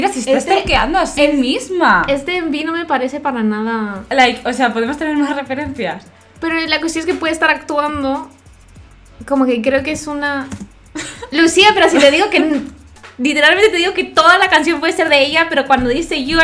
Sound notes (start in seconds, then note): 12.2 frustrated in spanish